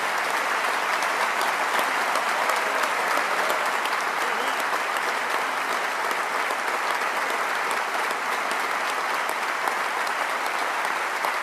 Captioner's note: applause